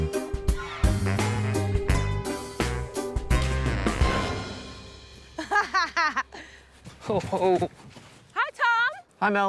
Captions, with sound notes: (LAUGHS) Oh. Hi, Tom! Hi, Mel.